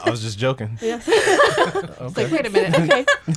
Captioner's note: group laughs